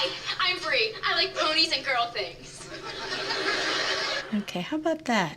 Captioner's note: laughter